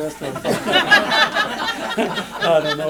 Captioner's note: laughter